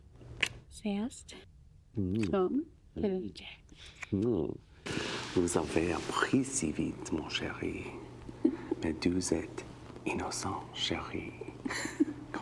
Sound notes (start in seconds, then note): 0.3 Caroline speaking foreign language; 5.0 Professor Farley speaking foreign language